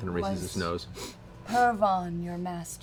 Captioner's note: sniffs